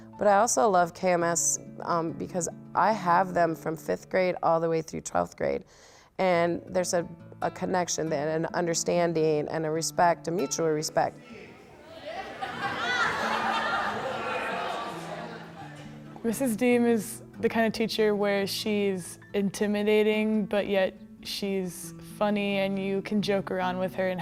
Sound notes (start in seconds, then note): 11.2 students talking and laughing